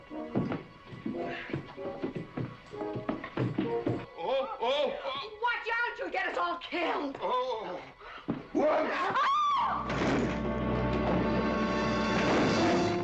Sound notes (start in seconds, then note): 1.6 mclintock grunts; 7.9 mclintock grunting; 8.7 both screaming